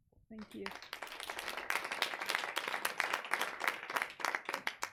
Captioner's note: audience applauds